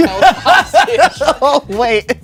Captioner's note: laughs